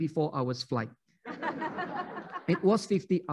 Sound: laughing

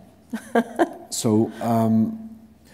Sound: laughter; foreign language

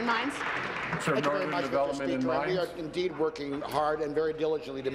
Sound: applause

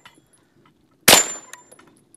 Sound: bang

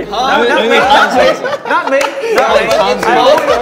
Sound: members laughing

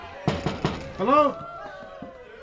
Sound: people cheering; knocking

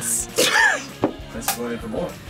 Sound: laughs

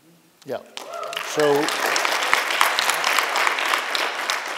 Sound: applause

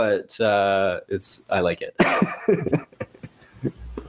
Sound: laughs

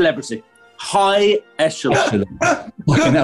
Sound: laughing

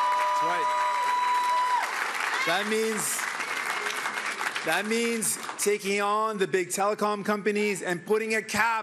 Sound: cheering and Applause

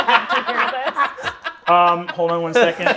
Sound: players laughing

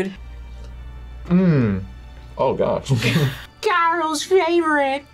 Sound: laughs

